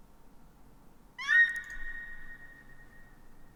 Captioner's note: website makes screaming noise before cut off by mute